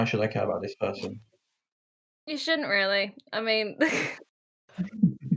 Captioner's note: laughter